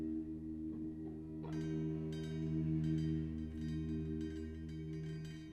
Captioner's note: bells dinging